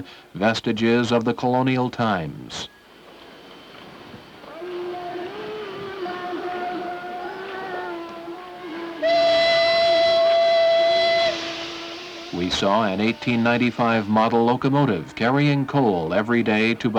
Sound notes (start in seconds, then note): 4.4 indigenous singing; 8.9 train whistle